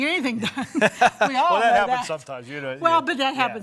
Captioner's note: laughs